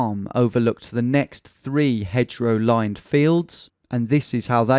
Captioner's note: none